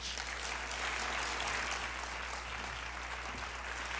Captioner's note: audience applauding